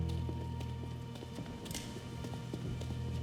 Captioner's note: gun clicks